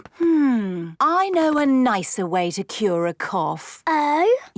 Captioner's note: none